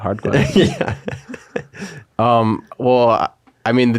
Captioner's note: laughing